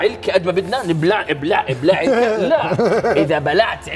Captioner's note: laughs